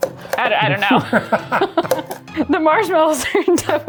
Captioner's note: laughing